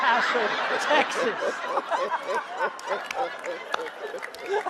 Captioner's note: all laughing